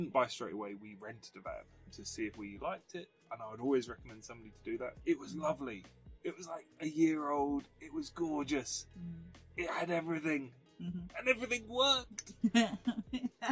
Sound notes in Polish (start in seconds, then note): 11.4 się śmieje